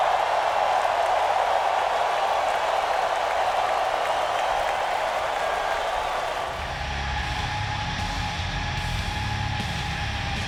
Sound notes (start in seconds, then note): 4.0 crowd cheering continues; 6.6 energetic rock music